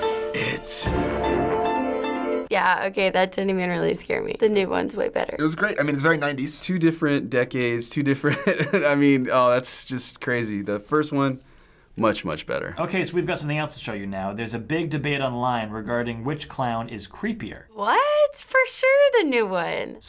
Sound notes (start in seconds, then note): 8.3 laughing